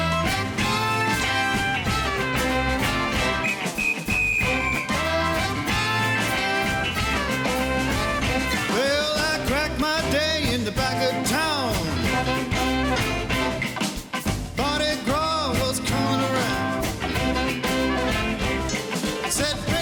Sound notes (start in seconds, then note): 0.2 lively instrumental music; 3.9 whistle blowing; 5.8 lively instrumental music